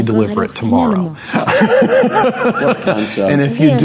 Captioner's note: laughing